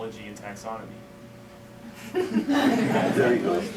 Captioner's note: laughter